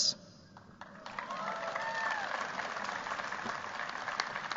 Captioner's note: cheers, applause